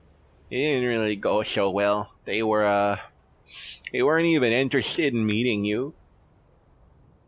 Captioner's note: sniffle